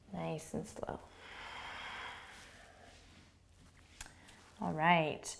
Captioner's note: breathing